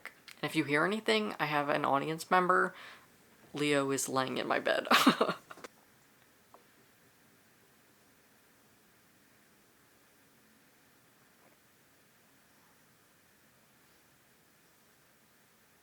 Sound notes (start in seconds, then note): 11.0 laughs